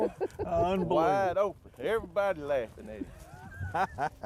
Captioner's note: laughing